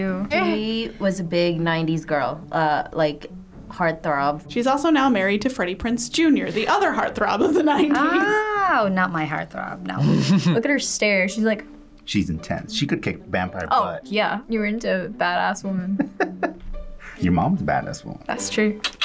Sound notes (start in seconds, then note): 15.8 laughing; 18.8 quirky interlude